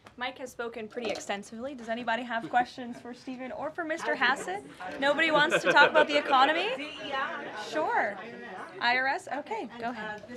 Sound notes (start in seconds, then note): 5.1 laughter